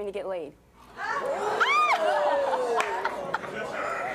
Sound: audience oohing

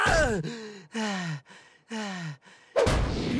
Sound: grunting; breathing heavily

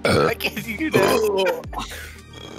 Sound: burps

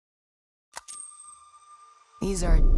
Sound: coin flipping

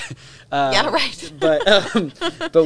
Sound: laugh; chuckles

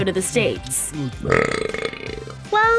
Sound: man belching

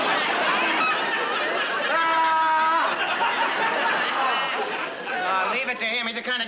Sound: yells

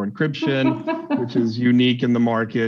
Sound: laughing

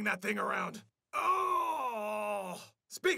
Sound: groaning

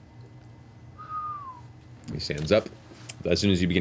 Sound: whistles

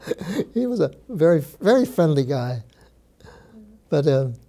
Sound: laughs

